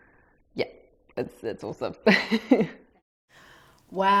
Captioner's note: laughs